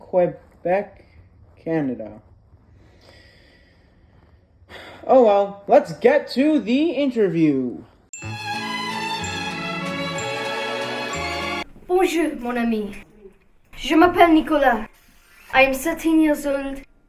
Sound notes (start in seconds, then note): 2.7 sighs; 8.2 cheery violin music plays